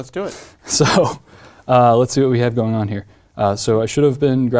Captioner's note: laugh